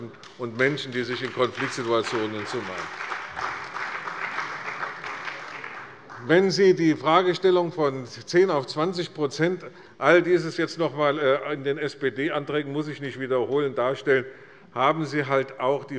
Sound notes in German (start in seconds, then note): 2.8 Beifall bei der CDU und dem BÜNDNIS 90/DIE GRÜNEN